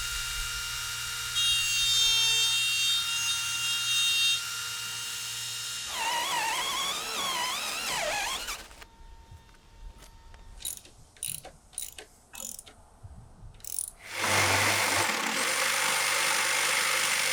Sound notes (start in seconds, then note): 0.2 saw cutting; 5.4 drill spinning; 12.3 wrench cranking; 13.7 saw cutting